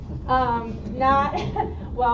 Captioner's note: laughter